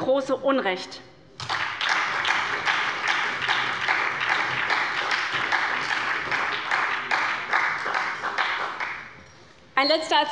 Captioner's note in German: Beifall bei der SPD